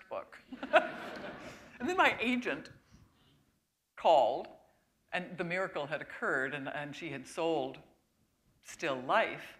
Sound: chuckle

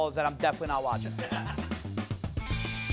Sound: laughing; upbeat rock music

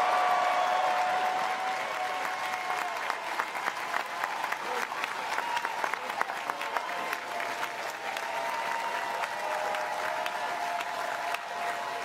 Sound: applause

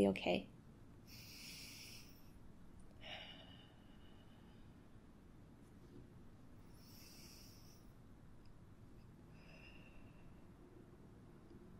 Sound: takes two deep breaths

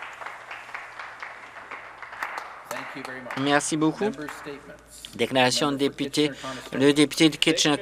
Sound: some Applause

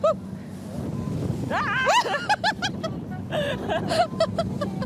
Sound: laughing

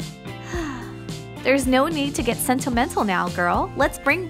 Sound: sigh

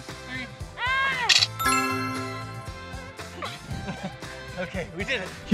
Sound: yells and camera flashes

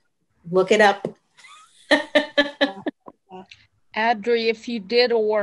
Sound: laughing

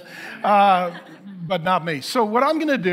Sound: congregation laughing

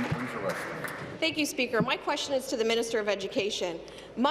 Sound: applause

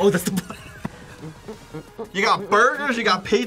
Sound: laughs; hums

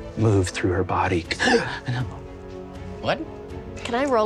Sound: gasping

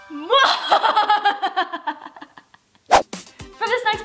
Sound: laughs maniacally

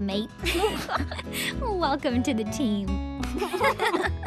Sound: giggling; giggling

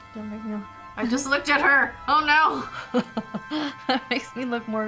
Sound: chuckles

